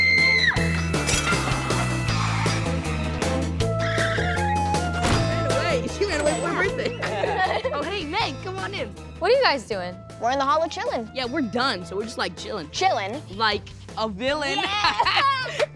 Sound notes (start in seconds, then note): 0.0 all screaming; 0.0 screams; 3.1 tires screech; 5.0 door closes; 6.8 laughter